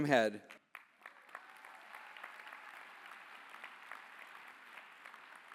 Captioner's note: applause